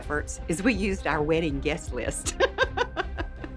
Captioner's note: laughs